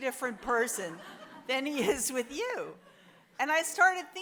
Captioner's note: audience laughs